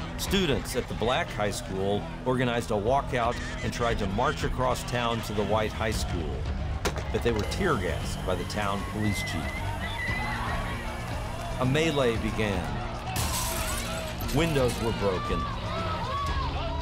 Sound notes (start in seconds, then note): 9.7 crowd shouting in panic; 13.1 glass shattering